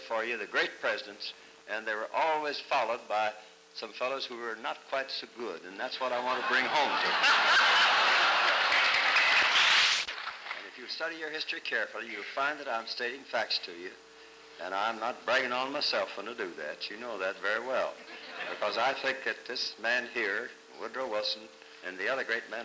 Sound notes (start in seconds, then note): 6.2 laughter